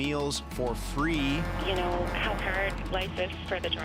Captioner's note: truck horn blares